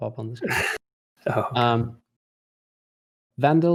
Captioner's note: chuckles